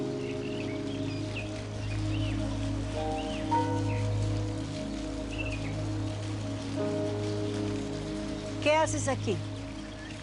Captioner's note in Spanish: Trinos y sonido del agua